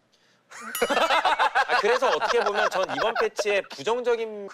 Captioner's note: awkward laughing